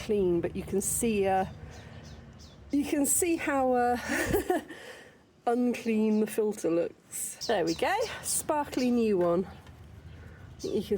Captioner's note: laughing